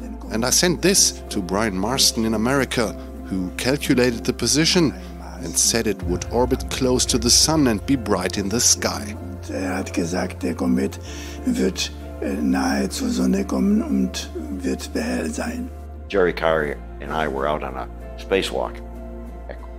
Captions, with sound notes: And I sent this to Brian Marsden in America who calculated the position and said it would orbit close to the Sun and be bright in the sky. [speaks in German] Jerry Carr and I were out on a space walk